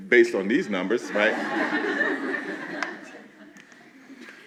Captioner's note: laughing